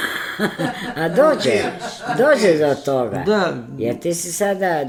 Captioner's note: laughter